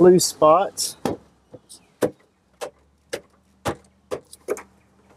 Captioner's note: parts banging